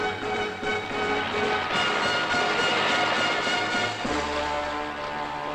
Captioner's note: helicopter blades whirring